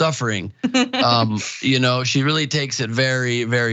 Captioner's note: laugh